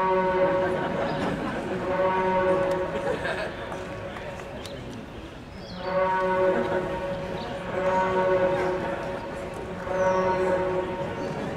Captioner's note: horn sounds; laughter; horn sounds; more laughter